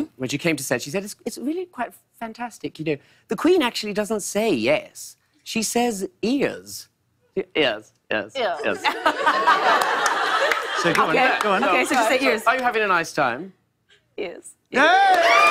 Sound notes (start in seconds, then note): 8.6 laughter